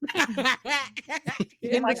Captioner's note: laughter